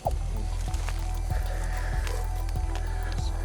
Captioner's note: Christian's colleague panting